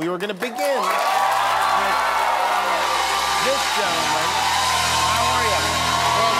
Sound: cheers and applause

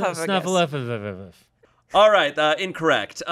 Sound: mumbling

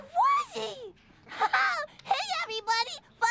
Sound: laughs

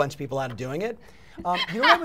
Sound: laughing

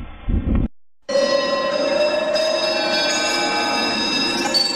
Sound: bells ringing

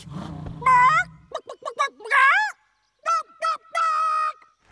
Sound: clucking

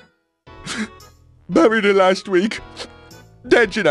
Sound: sobs

